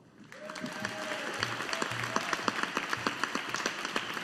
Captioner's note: audience applauding